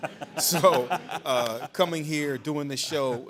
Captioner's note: laughing